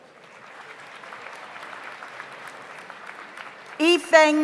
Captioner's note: audience applauds